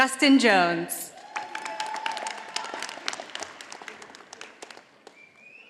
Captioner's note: audience applauding